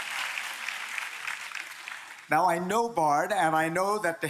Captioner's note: applause